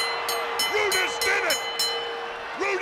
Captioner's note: bell ringing